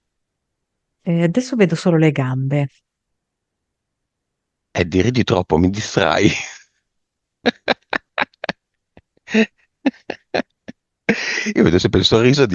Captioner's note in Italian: risate